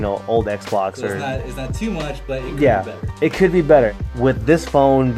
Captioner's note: voiceover